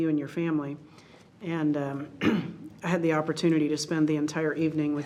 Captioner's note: clears throat